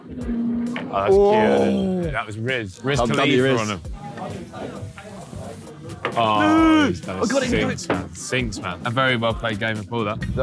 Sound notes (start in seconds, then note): 4.1 pool balls clanging